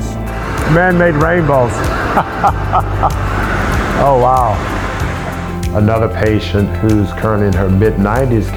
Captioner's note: laughs